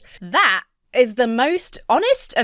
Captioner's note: none